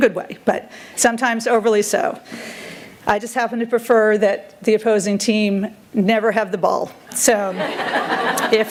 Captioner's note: chuckles